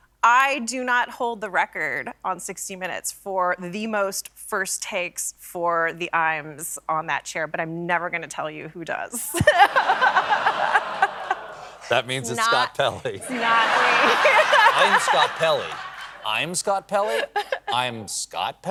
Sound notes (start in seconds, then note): 13.2 laughter